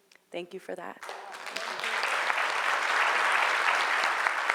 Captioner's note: applauding